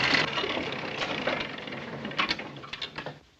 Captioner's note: whirring stops